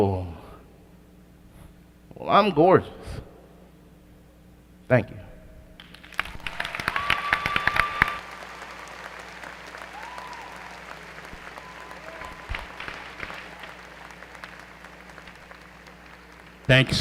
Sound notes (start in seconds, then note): 5.8 applause